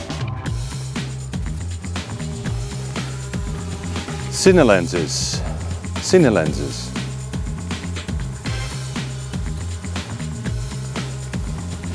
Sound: drone sound

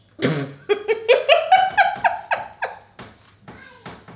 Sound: laughing

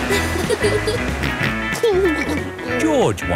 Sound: snorts and giggles; laughing

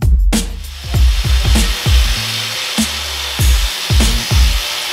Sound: grinder whirring

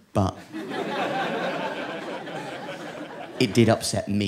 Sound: audience laughing

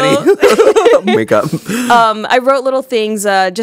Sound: both laughing

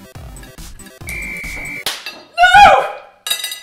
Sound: immediate whistle of victory

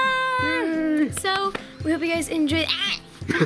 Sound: screams and laughs

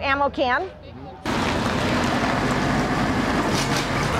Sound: tractor

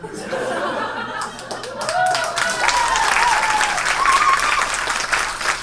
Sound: audience cheers and applauds

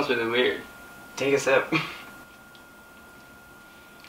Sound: laughing

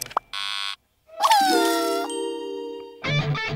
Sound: crying

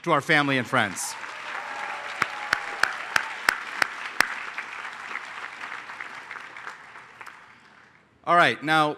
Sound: applause

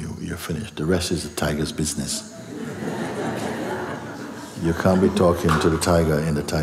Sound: laughter

